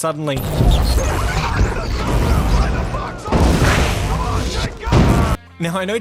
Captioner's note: loud vaccinator noises